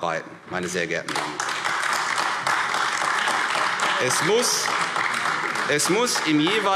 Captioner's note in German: Beifall AfD